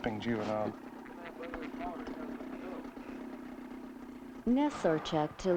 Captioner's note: motor rumbling